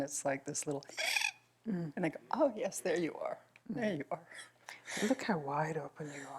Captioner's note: makes the sound of a wheezing intake of breath